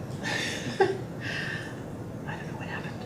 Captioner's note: laughing